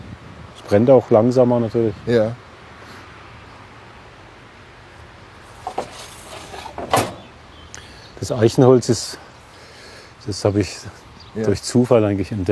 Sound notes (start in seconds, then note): 5.6 clattering